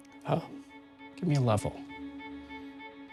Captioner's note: voice trembles